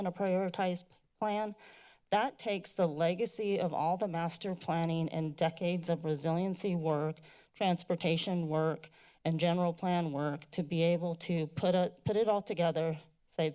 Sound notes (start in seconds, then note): none